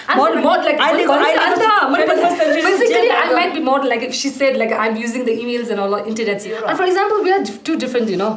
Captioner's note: arguing